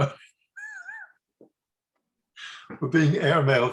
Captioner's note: laughs